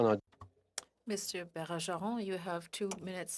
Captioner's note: speaking French